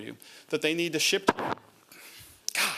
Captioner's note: microphone noise